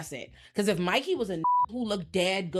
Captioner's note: beep